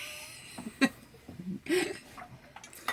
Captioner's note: laughs